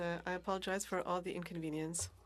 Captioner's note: speaking French